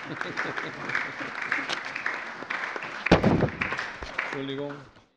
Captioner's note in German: Beifall